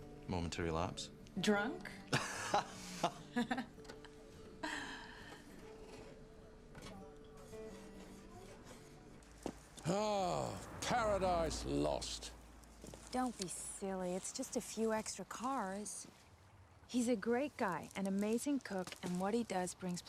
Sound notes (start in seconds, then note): 2.1 Rob laughs; 2.1 Kate laughs; 6.2 gentle music; 6.2 patrons chattering